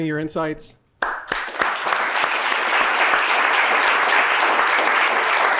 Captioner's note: participants applauding